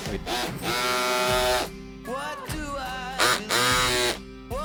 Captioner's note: cutter buzzing loudly